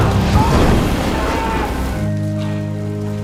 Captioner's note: both grunting; fire whooshing; subtle emotional music